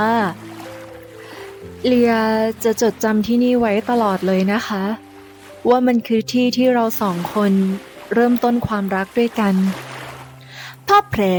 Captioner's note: Leeya, softly